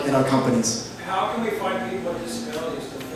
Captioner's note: voiceover